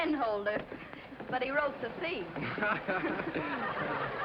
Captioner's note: laughter